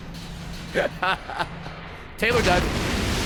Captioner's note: laughs